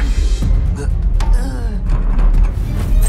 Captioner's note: Amato groans weakly